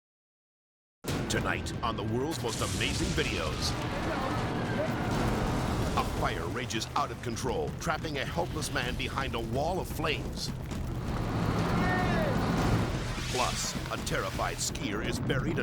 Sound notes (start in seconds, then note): 3.8 distant siren wailing